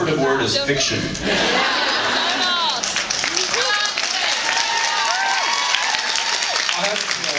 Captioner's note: cheers